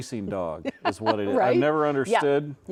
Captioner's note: laughing